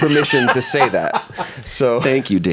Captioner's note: laughs